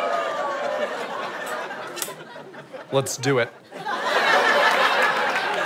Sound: audience applause

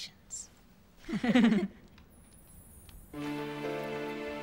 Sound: giggling; somber music

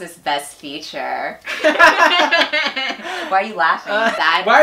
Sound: laugh

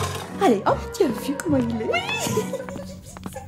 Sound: giggles

